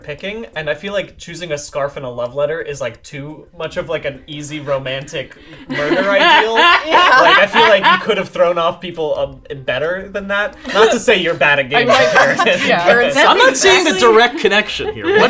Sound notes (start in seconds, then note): 4.6 laughing; 11.8 laughing